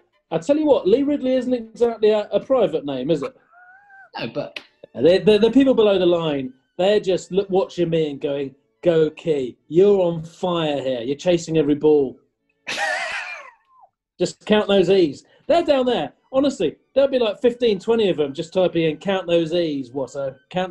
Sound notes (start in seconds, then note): 13.3 sniggering